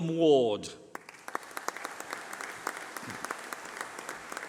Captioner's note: applause